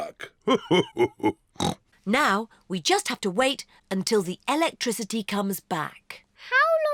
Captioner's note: laughs; snorts